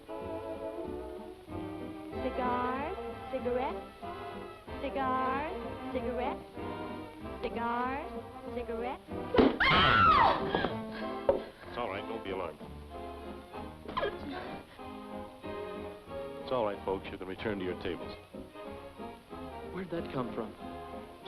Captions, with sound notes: - Cigars, cigarettes. Cigars, cigarettes. Cigars, cigarettes. (server screaming) - It's all right, don't be alarmed. (jazz music) It's all right, folks, you can return to your tables. - Where'd that come from?